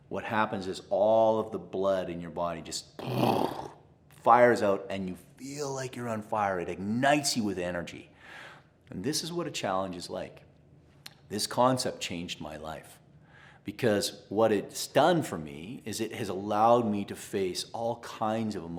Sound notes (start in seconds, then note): 3.0 imitates explosion